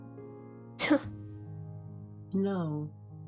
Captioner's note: ROSE scoffs